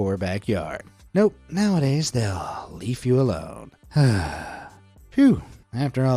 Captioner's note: sighs